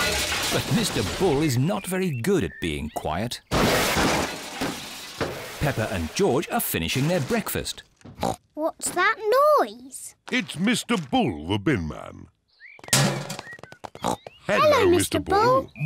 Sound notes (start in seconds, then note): 0.0 garbage clattering; 3.5 clattering; 8.2 snorts; 12.8 bin clangs; 13.7 snorts